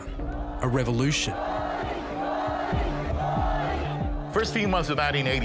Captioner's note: crowd chants